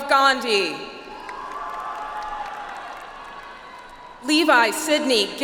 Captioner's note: audience applauds